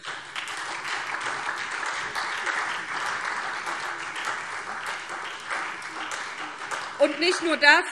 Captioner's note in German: Beifall SPD